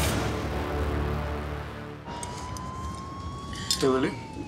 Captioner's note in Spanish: sirenas de patrulla policíal